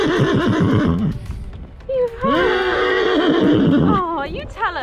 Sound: Ted whinnies

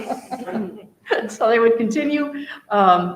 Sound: all laughing

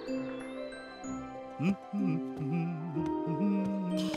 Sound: humming tune

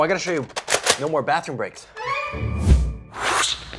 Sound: gun cocking; wooshing

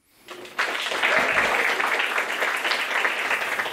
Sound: applause

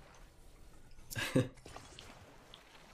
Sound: laughs

